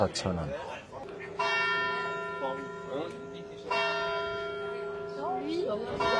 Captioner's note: church bells ringing